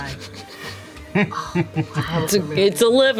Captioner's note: laughs